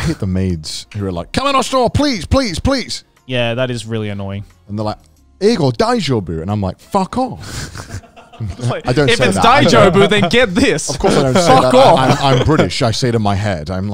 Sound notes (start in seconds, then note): 5.5 speaks in Japanese; 7.5 laughs; 9.5 speaks in Japanese